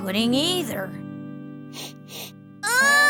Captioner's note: sniffing